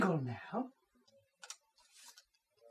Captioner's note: paper bag rustling